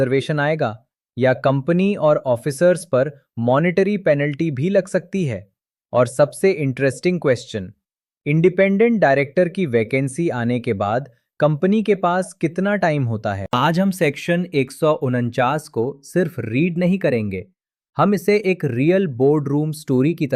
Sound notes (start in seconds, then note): 6.8 thoughtful